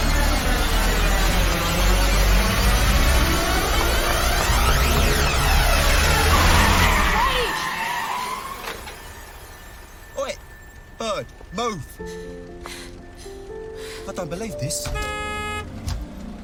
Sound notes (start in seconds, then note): 7.2 tires screeching; 14.6 honks horn